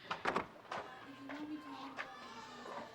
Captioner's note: babies crying